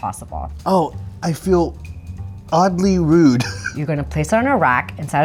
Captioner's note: chuckles